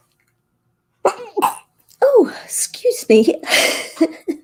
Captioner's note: sneeze